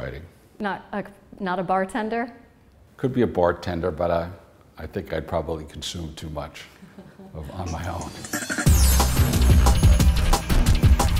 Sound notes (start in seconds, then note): 6.8 laughter